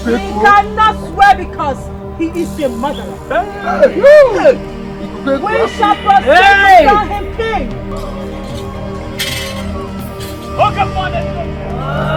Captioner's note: laughter